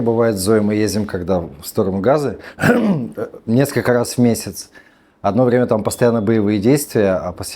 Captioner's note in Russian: откашливается